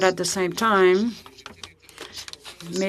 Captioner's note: speaking FRENCH